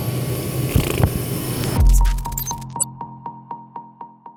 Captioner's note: beep echoes